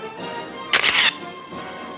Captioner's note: camera shatters; orchestral music